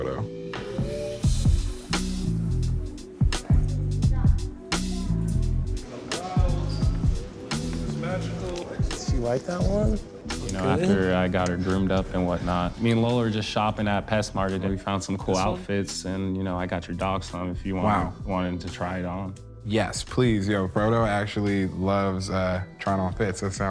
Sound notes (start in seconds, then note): 0.2 chill music; 3.4 shoppers chattering indistinctly; 7.9 chill upbeat music continues